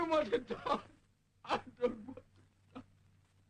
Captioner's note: sobs